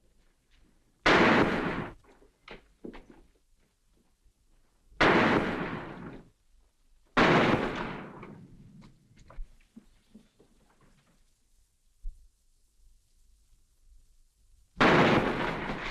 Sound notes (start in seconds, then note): 1.0 gunshot; 5.0 gunshots; 14.8 gunshot